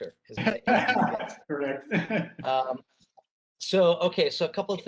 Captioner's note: laughing